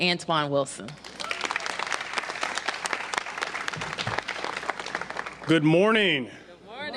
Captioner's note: applause